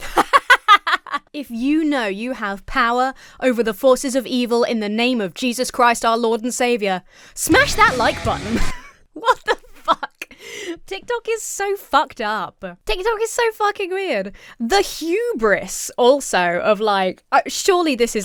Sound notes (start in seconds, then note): 0.0 laughs; 7.4 heavy metal music; 8.6 laughs